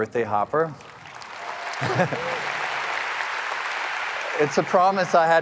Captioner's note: audience applauding